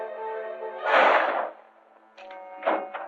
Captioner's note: gunshot